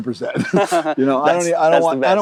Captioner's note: both laugh